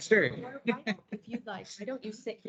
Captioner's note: indistinct chatter